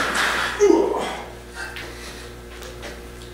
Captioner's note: grunts